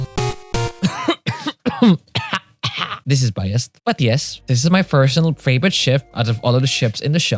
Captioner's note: cough